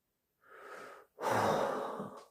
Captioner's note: inhalation; sigh 1